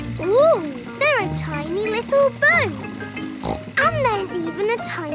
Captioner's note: snorts